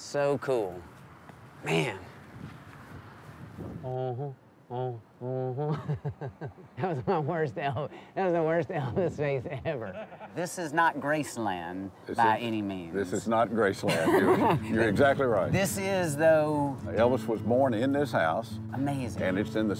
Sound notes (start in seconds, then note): 4.2 imitating elvis